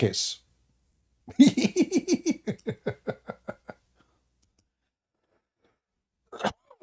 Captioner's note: Ketawa